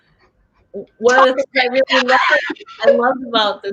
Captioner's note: laughs